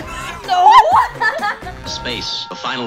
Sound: laughs

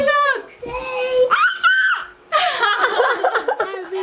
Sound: squeals excitedly; laugh

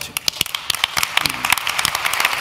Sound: applause

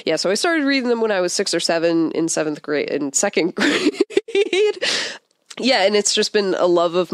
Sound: laughs

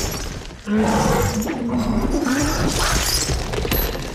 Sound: rock crumbles

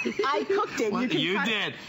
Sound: laughter

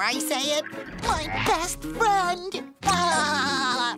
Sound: laughing

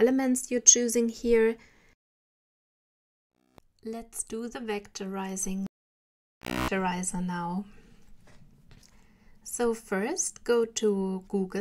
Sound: crackling noise

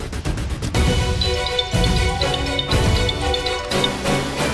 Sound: mobile phone ringing

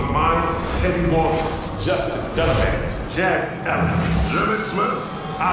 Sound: indiscernible chatter

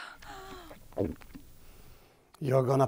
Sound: gulps

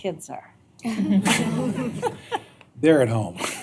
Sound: laughter

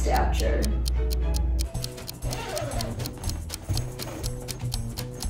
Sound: timer ticking

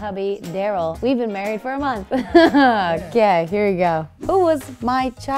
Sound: laughing

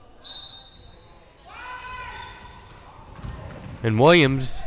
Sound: whistle blowing

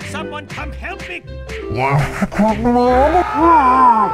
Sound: talk in gas mask language; Railgunner screaming

